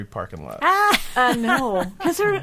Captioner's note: laughing